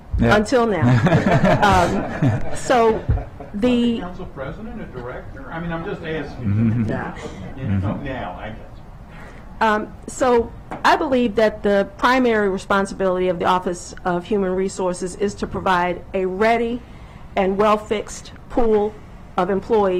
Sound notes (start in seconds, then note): 6.4 laughter